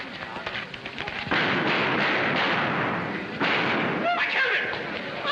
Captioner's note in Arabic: صفعة باليد; إطلاق النار